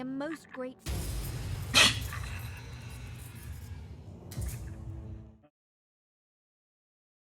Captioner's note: crash; scoffs